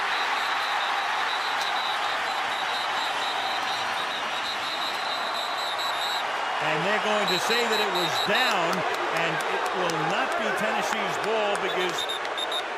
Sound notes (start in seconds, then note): 0.0 whistle; 9.2 booing